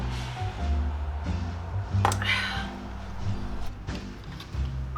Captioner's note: sigh